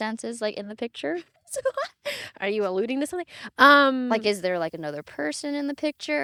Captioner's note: laughing